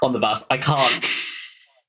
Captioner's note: laughs